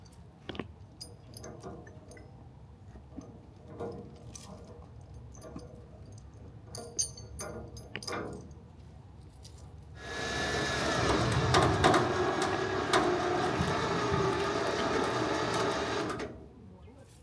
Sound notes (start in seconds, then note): 10.0 machine whirring